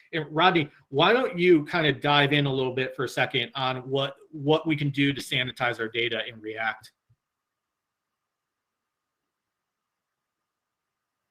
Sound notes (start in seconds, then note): none